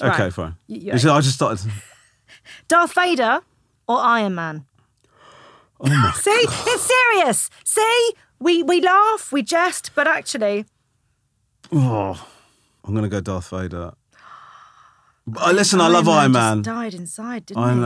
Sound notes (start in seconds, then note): 5.1 Romesh gasping; 14.2 gasping